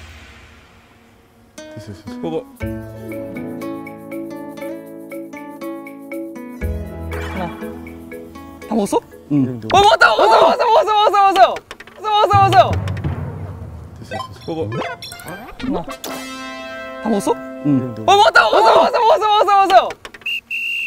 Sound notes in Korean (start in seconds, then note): 12.1 웅성웅성